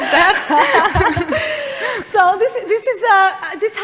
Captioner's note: laughter